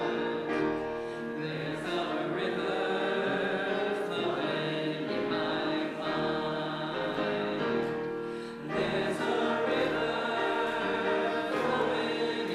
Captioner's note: congregation begins clapping on beat